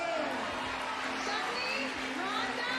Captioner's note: cheers and applause